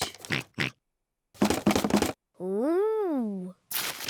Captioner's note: oinks; rattles